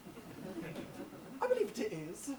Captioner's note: audience laughs